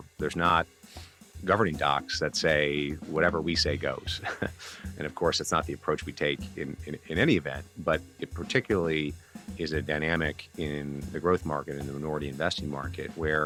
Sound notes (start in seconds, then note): 4.2 laughs